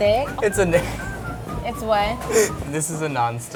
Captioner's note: laughter